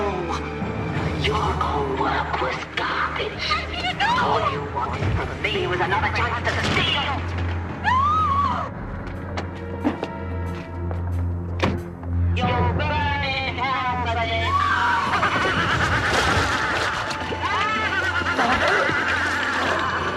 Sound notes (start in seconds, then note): 17.4 terengah-engah